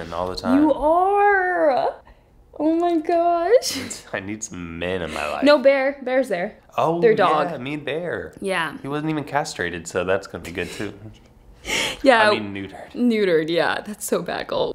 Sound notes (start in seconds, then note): 3.4 laughing; 10.8 laughing